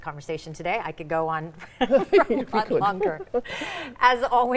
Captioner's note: chuckles